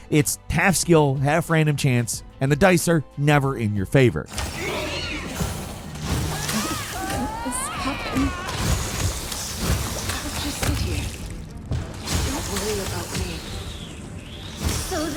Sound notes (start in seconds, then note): 4.4 enemies groaning; 5.1 weapons firing